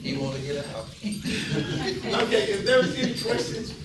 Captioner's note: audience chatter